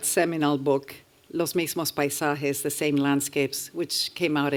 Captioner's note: spanish